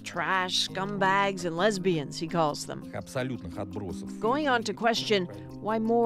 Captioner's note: speaking alternate language